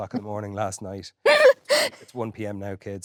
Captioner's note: Jessie laughing